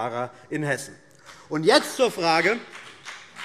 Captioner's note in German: Beifall BÜNDNIS 90/DIE GRÜNEN